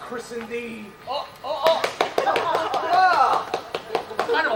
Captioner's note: applause, cheers